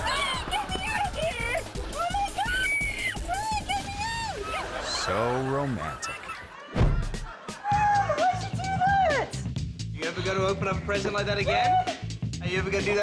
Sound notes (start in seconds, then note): 0.0 audience laughing; 2.1 screaming; 4.1 audience laughing; 6.8 air whoosh